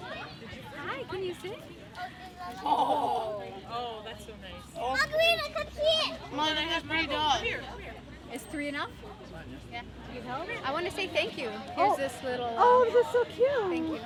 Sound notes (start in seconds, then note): 0.0 children playing; 2.6 laughing; 4.5 children yelling